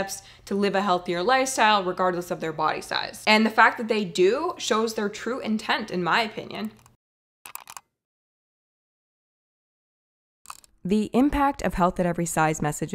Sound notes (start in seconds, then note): 7.4 keyboard clicking